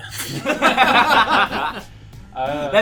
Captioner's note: laughter